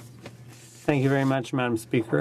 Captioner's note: speaking in french